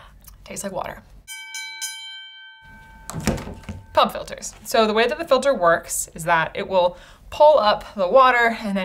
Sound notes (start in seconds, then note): 1.2 bell dings